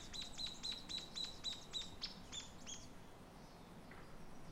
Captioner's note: birds chirping